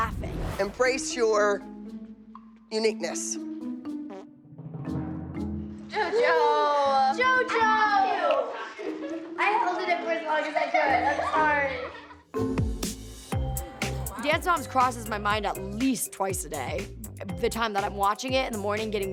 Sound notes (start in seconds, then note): 3.6 whimsical music playing; 4.0 flatulence